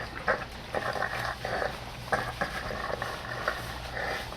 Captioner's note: ragged Breathing Continues